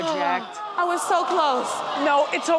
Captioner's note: audience exclaims